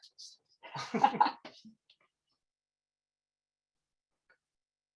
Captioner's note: both laugh